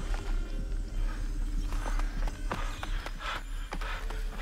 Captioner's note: man panting